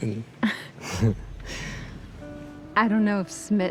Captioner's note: laughing